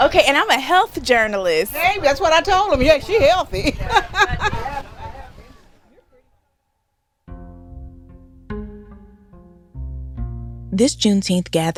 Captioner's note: laughter